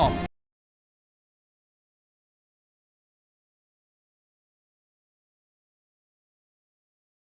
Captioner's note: audio missing